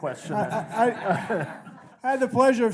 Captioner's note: audience laughing